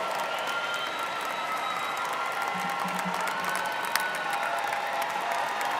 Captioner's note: students cheering and applauding